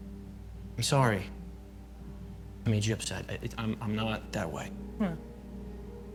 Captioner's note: stammers